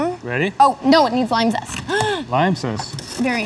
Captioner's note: gasps